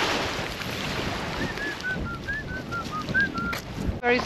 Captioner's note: whistles